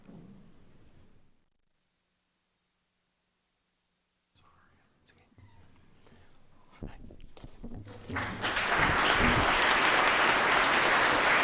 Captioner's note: laughter; applause